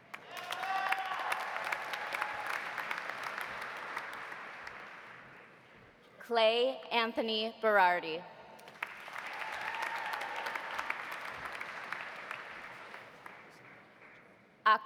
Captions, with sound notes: (audience applauding) (audience cheering) Clay Anthony Berardi. (audience applauding) (audience cheering)